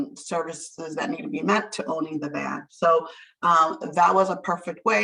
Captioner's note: none